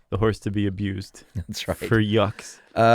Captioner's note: laughs